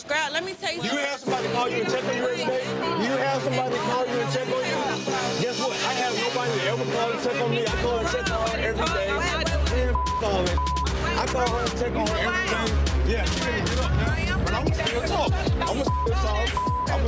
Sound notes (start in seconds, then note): 2.5 dramatic hip-hop music; 8.8 people speaking indistinct; 12.4 dramatic hip-hop music